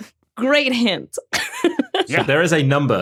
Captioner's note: laughs